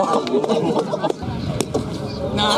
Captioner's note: crowd